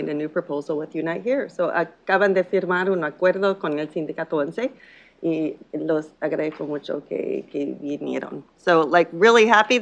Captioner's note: speaking in Spanish